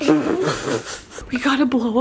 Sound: blows raspberry and chuckles

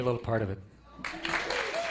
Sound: applause

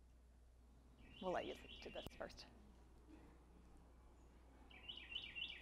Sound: bird chirping

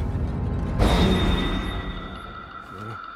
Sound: none

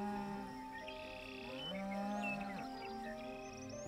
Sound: a cow moos

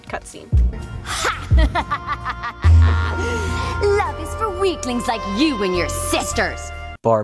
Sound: bad evil laugh

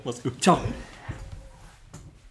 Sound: laughs

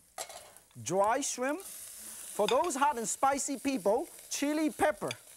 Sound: none

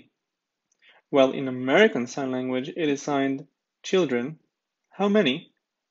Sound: british

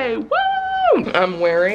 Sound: cheers

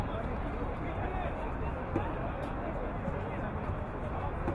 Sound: none

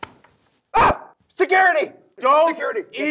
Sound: screams

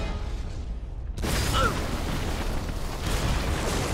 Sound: explosion

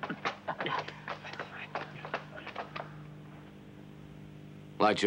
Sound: shuffling footsteps

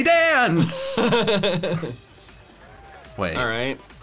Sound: laughing

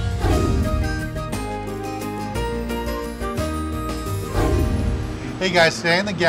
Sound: light background music; whooshing sound

